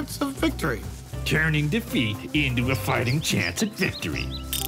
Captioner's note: mimicking sarcastically